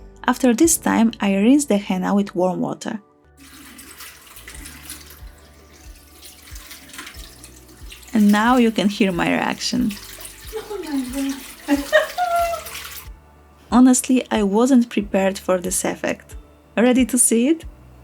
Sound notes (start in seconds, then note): 11.7 ironic laugh